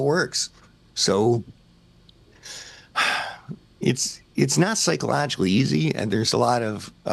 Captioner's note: sighs